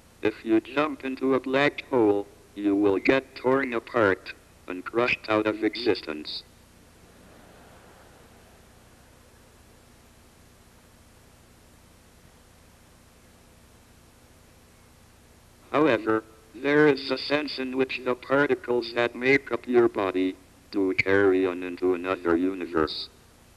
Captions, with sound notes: If you jump into a black hole, you will get torn apart, and crushed out of existence. (audience laughs) However, there is a sense in which the particles that make up your body, do carry on into another universe.